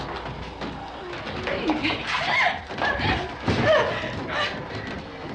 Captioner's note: gasping